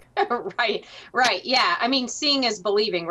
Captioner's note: laughs